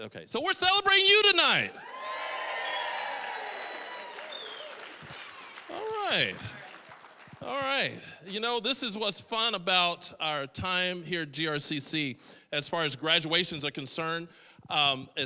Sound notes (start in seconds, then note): 1.5 audience cheering